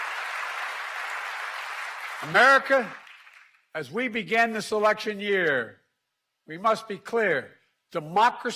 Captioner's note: applause